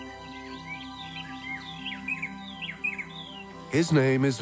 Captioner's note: birds chirping